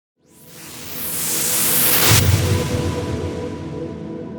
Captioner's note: wooshing